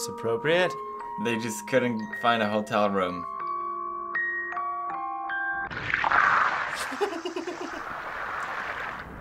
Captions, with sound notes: - Is this appropriate? - They just couldn't find a hotel room. (music stops, paint splashing) - (giggles)